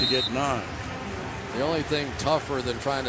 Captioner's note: pa announcement